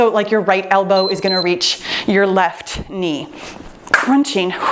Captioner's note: timer beeps